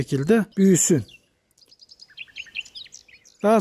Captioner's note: bird sounds